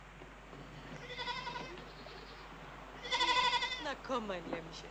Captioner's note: goat bleating